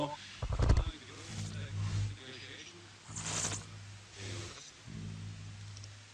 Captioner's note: sounds of interference